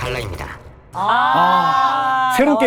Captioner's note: sound of lamentation